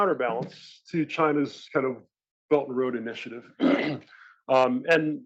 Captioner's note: cough